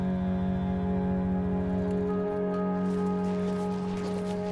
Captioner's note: gentle music; engine revving; footsteps pattering